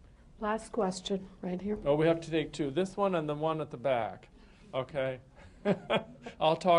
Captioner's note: laughter